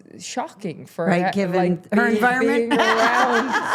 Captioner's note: laughs